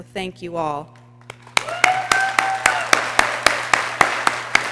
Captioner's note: people cheering